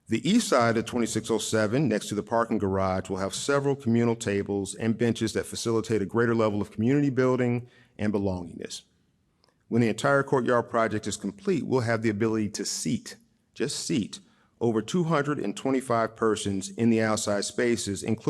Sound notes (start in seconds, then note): none